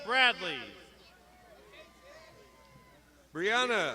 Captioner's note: crowd shouting